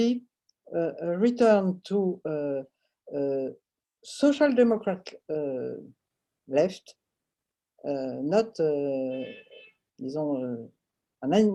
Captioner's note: french